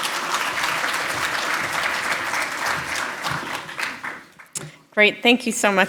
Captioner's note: applause